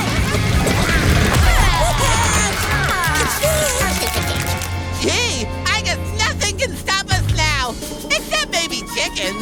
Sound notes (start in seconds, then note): 3.0 clicking